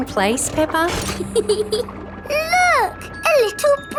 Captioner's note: peppa giggles